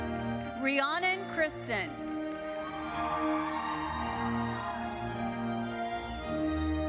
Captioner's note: majestic solemn music; audience cheering